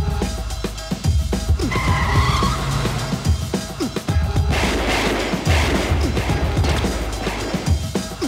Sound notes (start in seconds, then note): 1.5 tires squealing; 4.4 gunshots